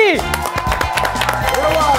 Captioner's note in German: Jubel, Applaus